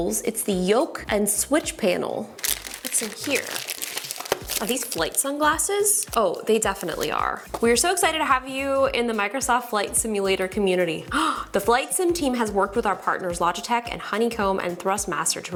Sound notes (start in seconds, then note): 2.3 plastic rustles; 11.1 gasps